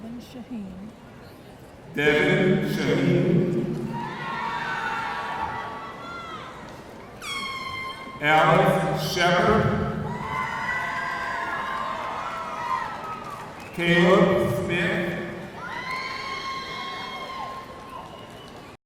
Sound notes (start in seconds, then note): 4.0 audience cheering; 10.2 audience cheering; 15.7 audience cheering